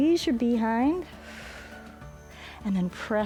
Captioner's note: exhales